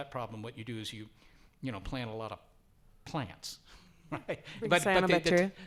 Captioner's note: laughs